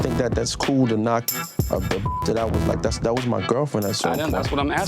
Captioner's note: beep